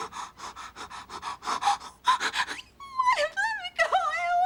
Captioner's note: crying